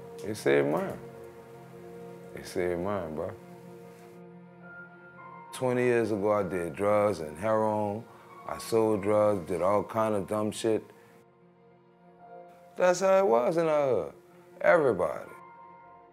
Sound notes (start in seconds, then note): none